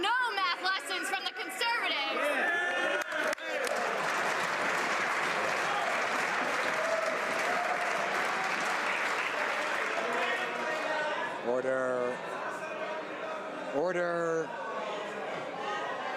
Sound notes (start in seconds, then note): 5.2 some Applause